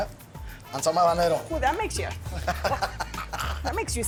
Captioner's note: speaks Spanish